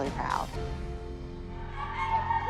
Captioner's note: whooping